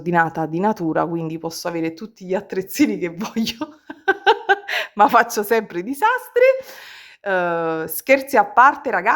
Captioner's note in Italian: risate